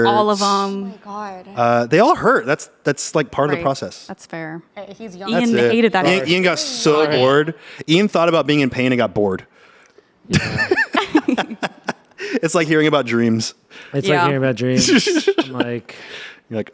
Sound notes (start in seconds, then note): 10.4 everyone laughs